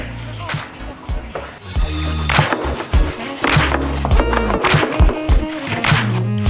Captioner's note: upbeat hip hop music; plastic tapping